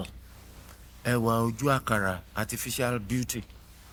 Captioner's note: speaking in foreign language